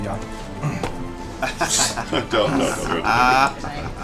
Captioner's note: laughs